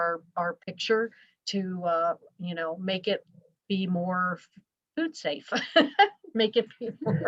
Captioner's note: laughs